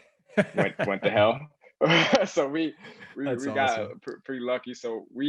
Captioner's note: laugh